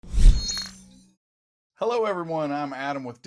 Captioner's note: electronic whooshing